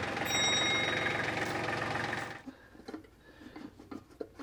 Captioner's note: bell rings